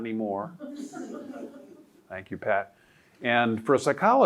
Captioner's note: audience laughing